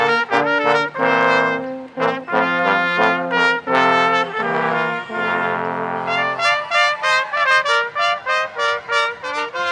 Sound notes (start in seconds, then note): 0.0 ceremonious music continues; 4.2 audience cheering